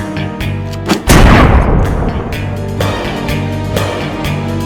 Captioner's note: gun firing